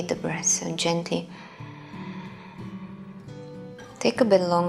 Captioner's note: exhaling